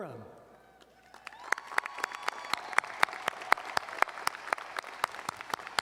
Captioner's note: audience cheering and applauding